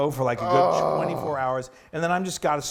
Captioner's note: groans